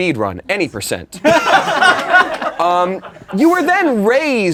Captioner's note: laughing